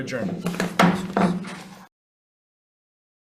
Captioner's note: gavel banging